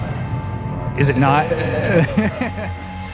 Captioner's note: laughter